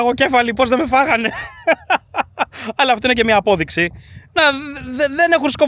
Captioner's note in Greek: γέλια